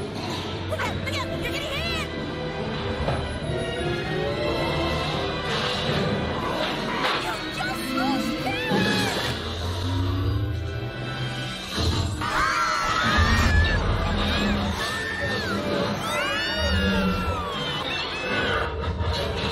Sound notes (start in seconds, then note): 12.2 screams; 12.2 Super Hero Girls Screaming; 14.8 screaming continues; 16.1 screaming